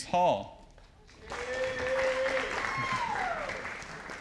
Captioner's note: audience applauding